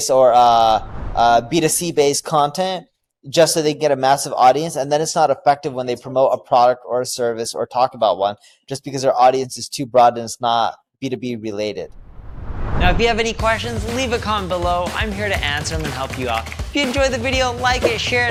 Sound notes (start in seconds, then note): 11.9 transition sound effect